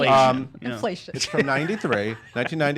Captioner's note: laughing